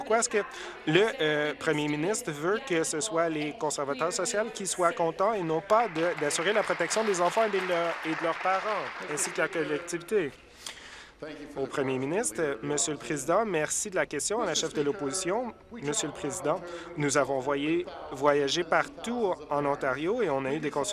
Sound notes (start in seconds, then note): 7.8 applause